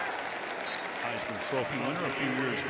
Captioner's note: whistle